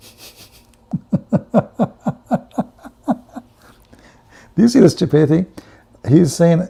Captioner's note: Ketawa